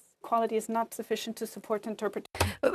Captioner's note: speaking french